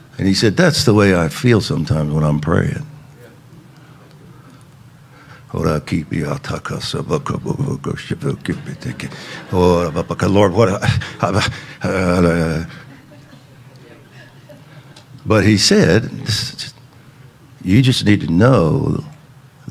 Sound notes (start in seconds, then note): 5.8 speaking in tongues; 11.5 congregation chattering